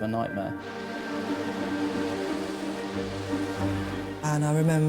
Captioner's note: tense music; water rushing